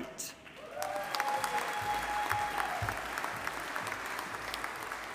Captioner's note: audience applauding